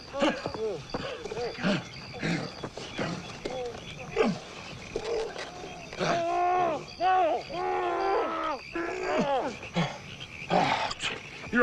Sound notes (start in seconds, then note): 0.0 Mrs. Macgruder gasps; 0.0 Tommy groaning frantically; 0.9 Hezekiah panting; 4.2 Hezekiah grunts; 10.5 Hezekiah sighs